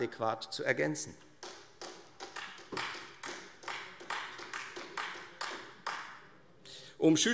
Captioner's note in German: Beifall Freie Demokraten